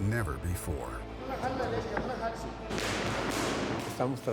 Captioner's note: speaks Spanish